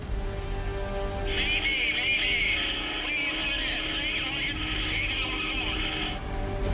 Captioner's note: man over radio